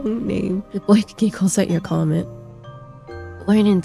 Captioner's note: Goodboy giggles at your comment